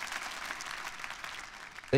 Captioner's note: audience applauding